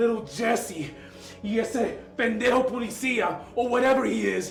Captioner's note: Spanish